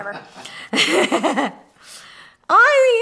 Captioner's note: laughs